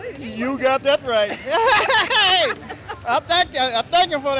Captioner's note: laughing